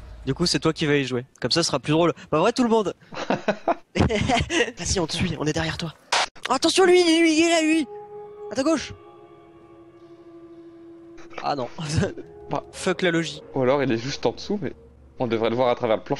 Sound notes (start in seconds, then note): 3.1 laughs; 7.0 sputtering